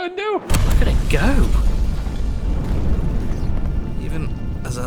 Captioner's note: explosion rumbling